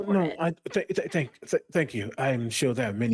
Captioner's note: stutters